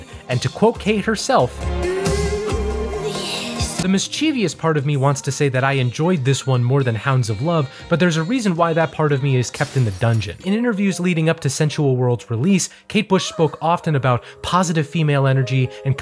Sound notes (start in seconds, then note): 10.0 smashing glass